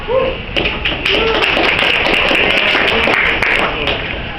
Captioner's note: audience applauds